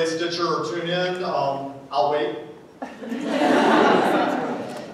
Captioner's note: laughter